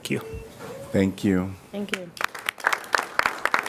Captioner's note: applause